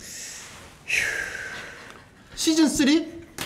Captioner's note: sigh